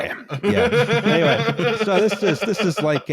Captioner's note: laughter